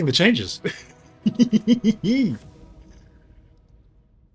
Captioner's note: laughs